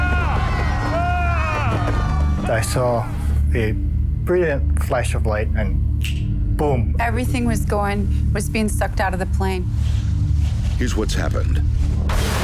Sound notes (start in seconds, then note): 0.0 passengers shouting; 5.9 snaps